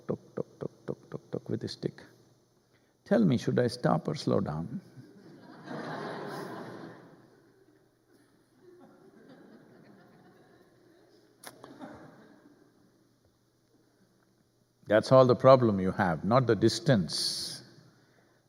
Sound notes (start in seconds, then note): 7.9 laughter